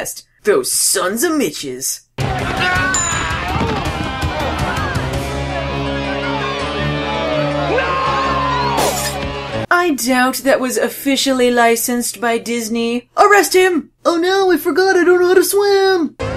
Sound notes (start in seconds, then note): 4.5 intense music continues; 7.5 Larry 'Loomin' Large, accompanied by a gunshot